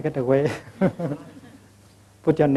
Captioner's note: laughter